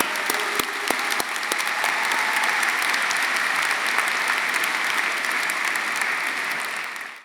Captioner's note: audience applauding; audience cheering